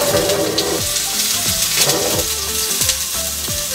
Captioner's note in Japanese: ジュージュー